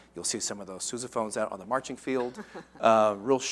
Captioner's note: laughter